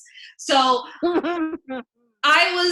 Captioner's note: laughs